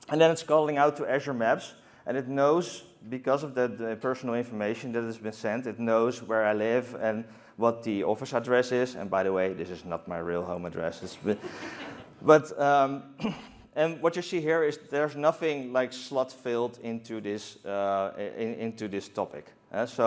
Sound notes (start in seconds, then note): 11.1 laughter